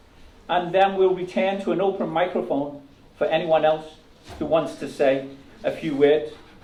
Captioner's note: none